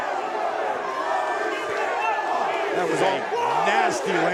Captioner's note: crowd chants "Holy shit"